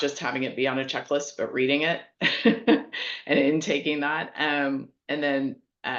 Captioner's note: laughing